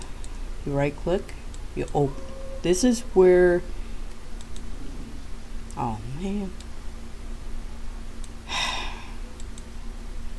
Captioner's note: sigh